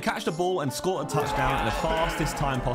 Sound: men cheering in background

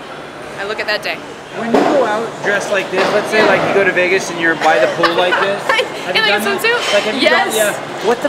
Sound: laughter

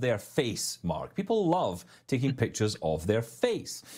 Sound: chuckling

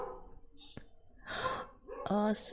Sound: laughs; gasps

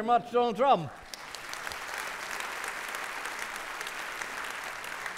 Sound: audience clapping

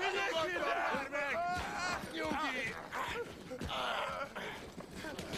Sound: wailing

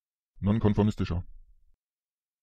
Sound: fast Pronunciation

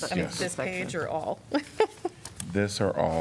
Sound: laughter

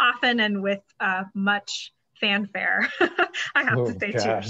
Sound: laughs

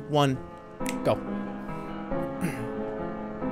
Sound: snaps

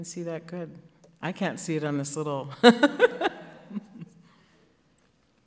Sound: laughs

